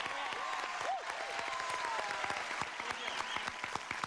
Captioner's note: crowd cheers